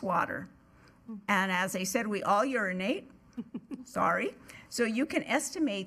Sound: giggling

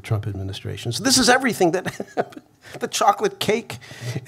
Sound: laughs

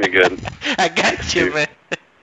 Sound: laughing

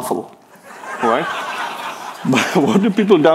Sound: people laughing

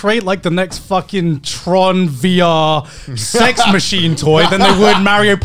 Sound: laughing

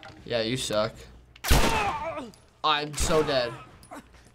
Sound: gunshot; gunshot, man groans

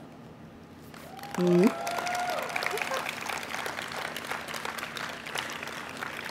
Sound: audience applauding and cheering

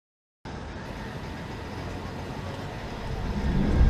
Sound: none

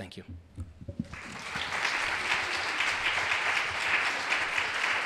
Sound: audience applauding

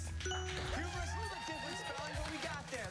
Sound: applause

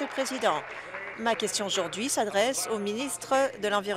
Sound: applause

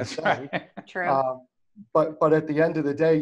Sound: laughs

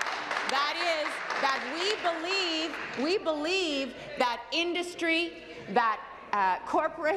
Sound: applause

